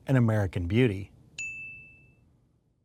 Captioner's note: chime sound